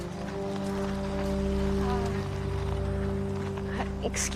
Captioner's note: engines puttering